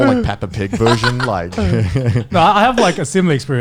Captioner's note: laughing